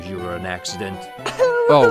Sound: cries

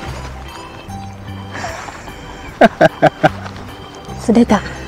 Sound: laughs

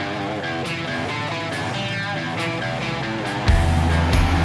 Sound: motor revving; rock music builds

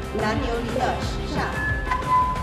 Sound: speaking Tibetan; microphone feedback

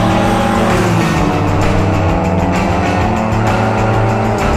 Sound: engine revving; upbeat rock music continues

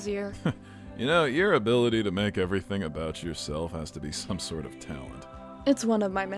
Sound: chuckles

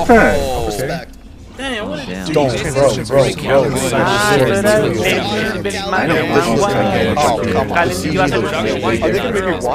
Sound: murmurs

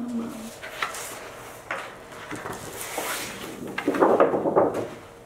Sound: paper shuffling

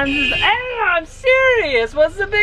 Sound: horn beeping

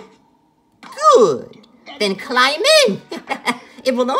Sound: laughs

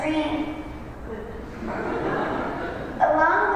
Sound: laughter

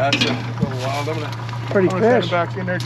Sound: fish thrashing

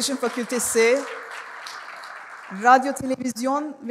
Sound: applause

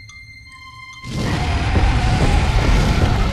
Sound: roars

